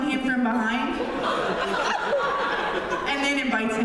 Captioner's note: laughter